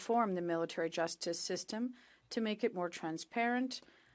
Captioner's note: speaking French